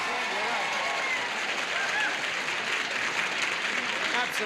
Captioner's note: audience applauding